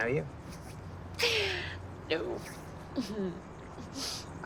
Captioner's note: chuckles